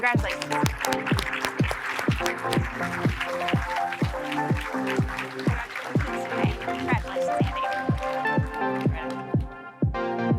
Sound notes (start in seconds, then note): 0.0 audience applauding; 0.0 upbeat music